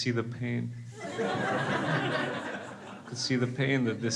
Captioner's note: crowd laughs